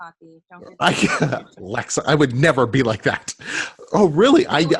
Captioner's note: laughs